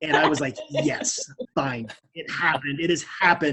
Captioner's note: laughing